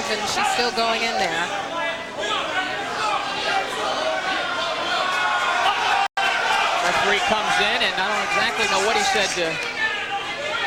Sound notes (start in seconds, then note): 4.1 jeers from the audience